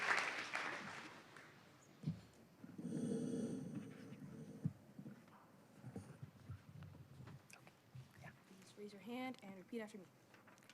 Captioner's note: cheers and applause